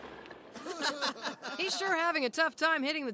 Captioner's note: laughs